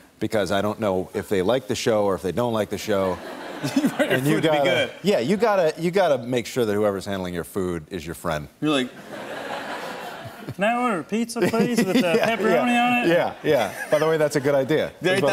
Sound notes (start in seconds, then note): 3.1 laughter; 8.9 laughter